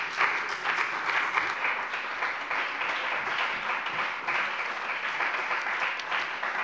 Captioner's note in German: Beifall bei dem BÜNDNIS 90/DIE GRÜNEN und der CDU